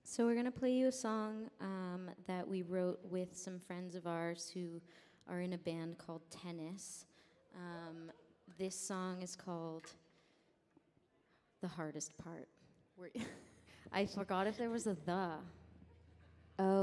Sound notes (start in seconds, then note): 13.2 laughs